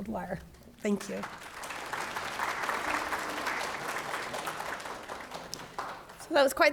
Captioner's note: audience applauds